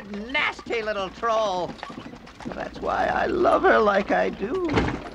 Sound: wagon bangs

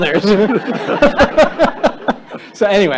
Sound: laughter

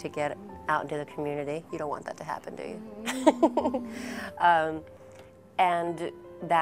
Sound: laughing

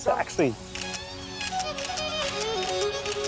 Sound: camera clicks

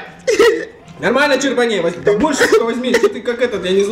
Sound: crying :'

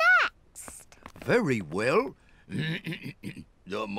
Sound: clears throat

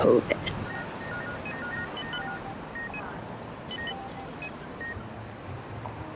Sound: machines beep and whir

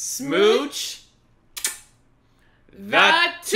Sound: lip smack

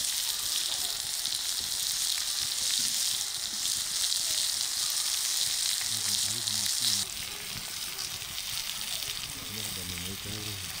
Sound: sizzling sound

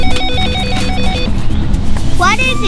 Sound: phone rings

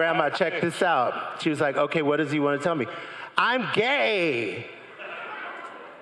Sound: crowd laughing and cheering

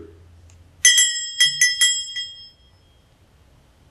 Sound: bell dings

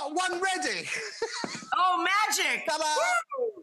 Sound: laughing

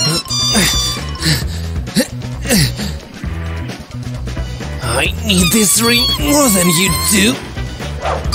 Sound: heavy, slightly panicky breathing

